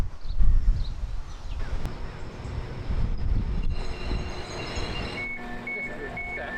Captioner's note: train engine